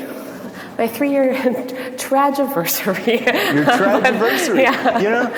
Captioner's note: laughing